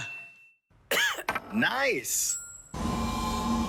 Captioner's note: coughs